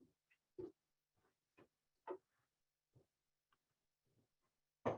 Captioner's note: silence